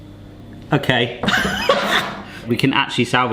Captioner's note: laughing